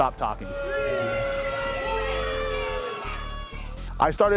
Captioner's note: crowd boos